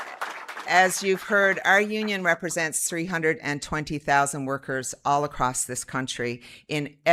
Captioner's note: applause